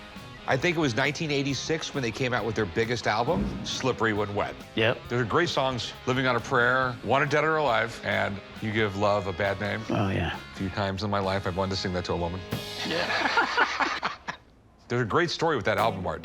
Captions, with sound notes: I think it was 1986 when they came out with their biggest album, "Slippery When Wet." - Yep. - They're great songs. "Living On a Prayer," "Wanted Dead Or Alive," and "You Give Love a Bad Name." - Oh, yeah. - Few times in my life I've wanted to sing that to a woman. - Yeah. [laughter] - There's a great story with that album art, too.